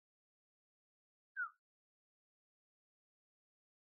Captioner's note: whistles